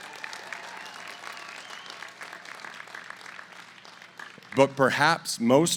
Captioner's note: applause